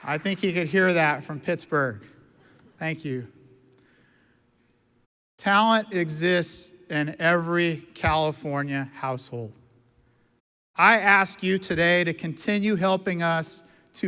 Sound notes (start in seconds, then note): none